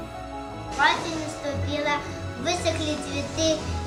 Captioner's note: reciting а verse in Russian